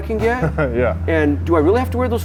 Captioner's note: chuckles